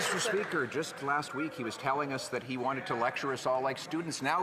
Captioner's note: some Applause